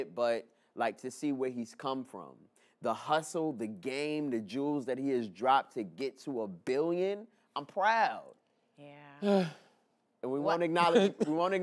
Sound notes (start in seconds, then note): 9.2 sighs